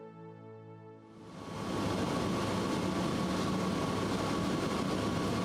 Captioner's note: plane engine running